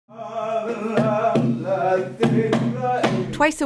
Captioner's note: chanting